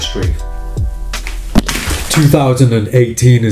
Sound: crash

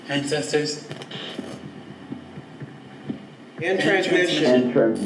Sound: static crackles

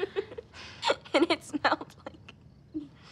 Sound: all laughing; laughing

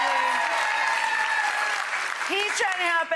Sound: audience clapping

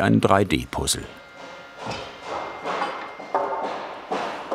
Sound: hammering in the background

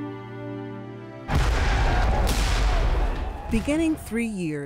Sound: guns firing

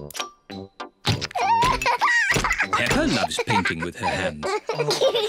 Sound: laughs; both laugh

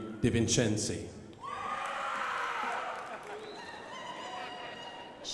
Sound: crowd applauding

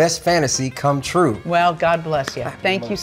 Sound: Jared claps

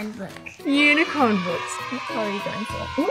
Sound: children cheering

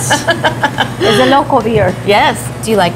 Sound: laughing

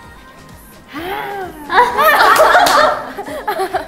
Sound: argh

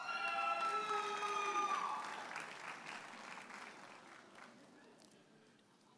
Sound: audience hollers and applauds

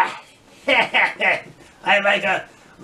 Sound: MR AWFUL laughs

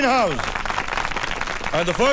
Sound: applauding

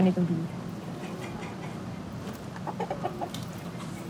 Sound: roosters clucking

